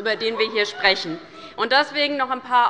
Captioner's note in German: Lachen bei der SPD